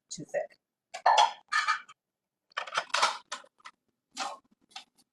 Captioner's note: containers rattling